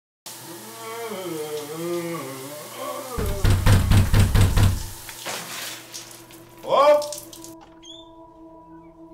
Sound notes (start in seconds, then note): 0.5 voice groaning; 3.2 visitor knocking